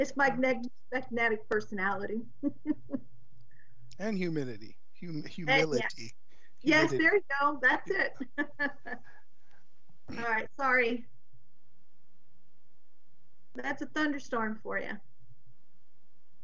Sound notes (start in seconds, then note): 4.0 chuckles; 9.4 laughs